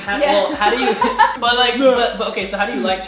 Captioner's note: laughing